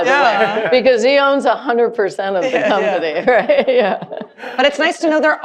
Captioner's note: laughing